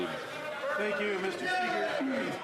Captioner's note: some Applause